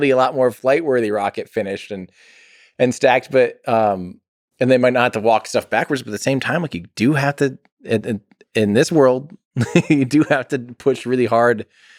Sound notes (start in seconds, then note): 9.6 Tim laughs